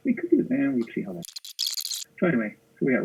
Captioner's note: squealing